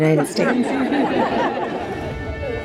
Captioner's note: audience laughs